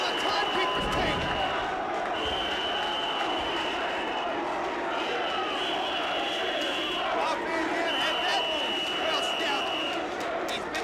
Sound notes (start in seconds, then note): 2.1 whistle blowing